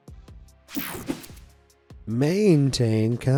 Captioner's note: screen whooshing